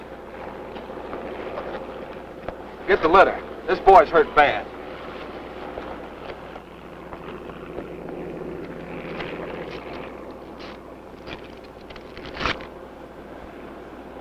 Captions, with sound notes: [helicopter] Get the litter. This boy's hurt bad. [tears paper]